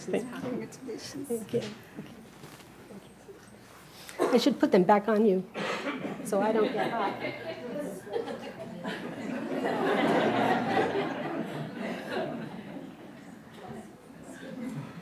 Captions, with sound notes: I should put them back on you. So I don't get hot. (people chattering) (audience laughing)